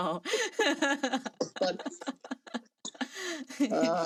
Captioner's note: both laughing